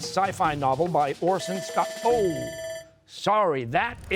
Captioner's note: bell rings